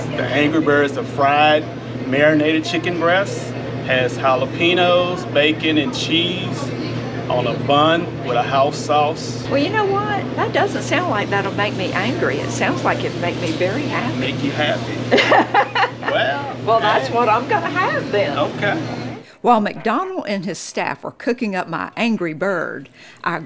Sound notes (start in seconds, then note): 15.4 guffaws